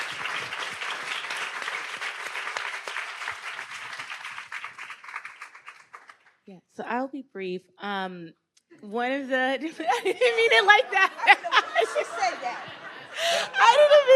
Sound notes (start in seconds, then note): 0.0 audience applauds